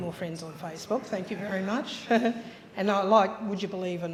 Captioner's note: chuckles